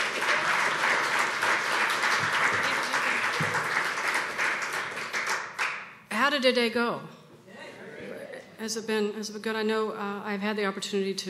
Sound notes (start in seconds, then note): 4.7 applause